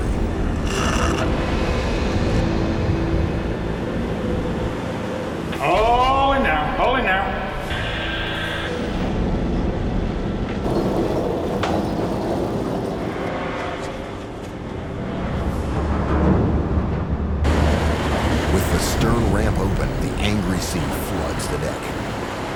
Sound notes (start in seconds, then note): 0.3 foreboding music; 10.2 machinery whirring; 10.6 clanking